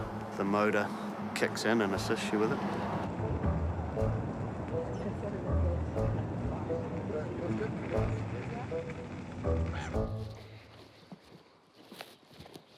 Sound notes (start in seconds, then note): 4.7 gentle chatter; 9.7 bird caw